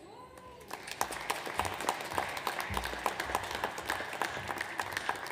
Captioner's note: audience applauds